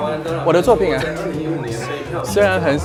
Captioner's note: laughter